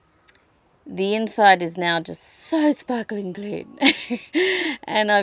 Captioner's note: silly posh voice; laughs